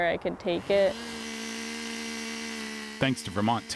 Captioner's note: chainsaw buzzing